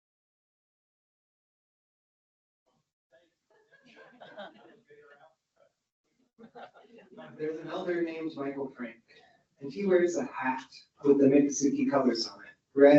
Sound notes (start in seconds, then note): 1.5 audience members speaking indistinctly; 3.8 audience laughs